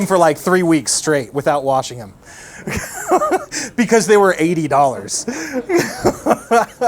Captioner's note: laughing; laughs